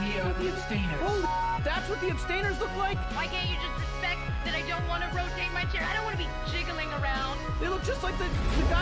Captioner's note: explosion